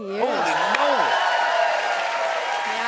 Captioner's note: cheers and applause